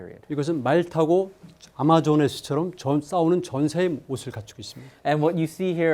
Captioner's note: speaking in Korean